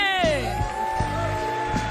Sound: cheering; applause; singing

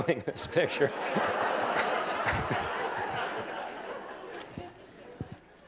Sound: laughter

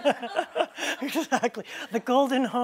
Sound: laughter

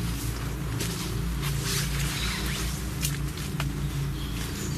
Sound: birds chirping

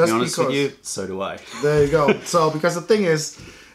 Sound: laughter

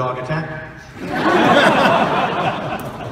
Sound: audience laughing

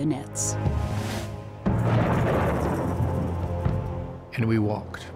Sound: thunder

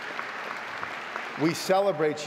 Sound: audience applauding

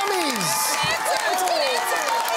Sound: cheering and applause

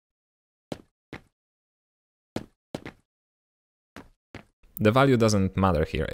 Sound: minecraft-like step sounds

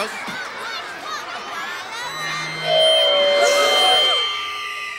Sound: feedback whines, all gasp

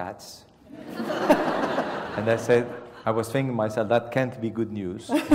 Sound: laugh

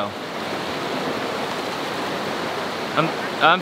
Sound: water rushing

